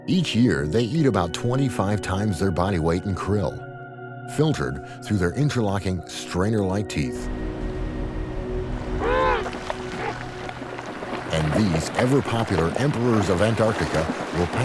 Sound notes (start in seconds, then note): 8.6 penguins vocalizing